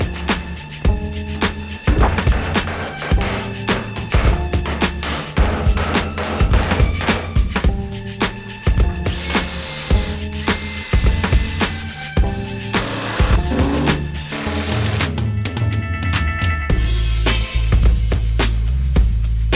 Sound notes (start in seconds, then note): 1.8 hammering; 8.9 drilling